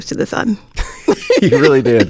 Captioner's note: laughs